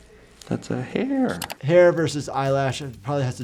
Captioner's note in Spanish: clic